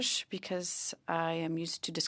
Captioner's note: speaking French